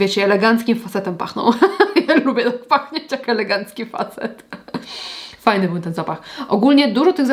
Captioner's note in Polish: śmiech